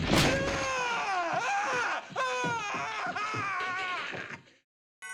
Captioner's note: screaming